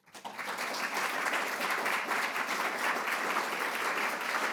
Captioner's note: audience applauds